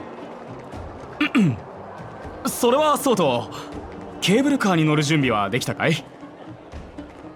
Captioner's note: cough